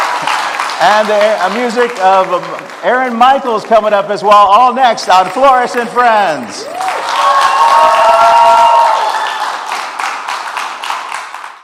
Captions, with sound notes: and the music of Aaron Michaels. (applause) coming up as well all next on Flores and Friends. (applause)